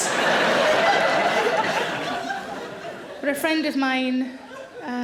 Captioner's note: audience laughs